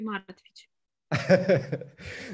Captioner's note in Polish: śmiech